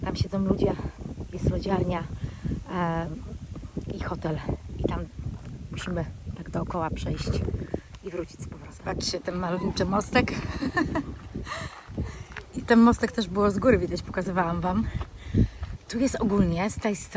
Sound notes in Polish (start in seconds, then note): 10.2 śmiech